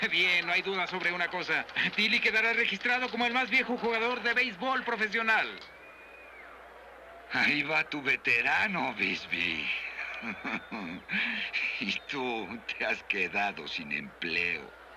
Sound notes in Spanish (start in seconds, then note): 9.0 riendo